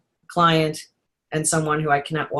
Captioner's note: none